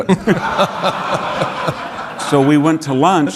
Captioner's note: audience laughing